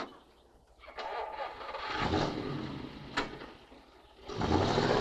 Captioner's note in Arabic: هدير محرك السيارة